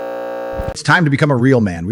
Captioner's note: buzzer